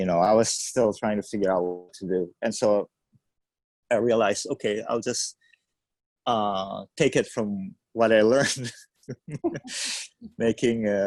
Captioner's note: laughs